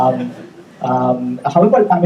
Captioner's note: audience laughing